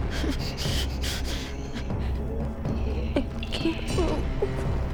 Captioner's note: Claire whimpering